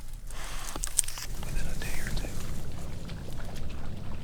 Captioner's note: whispering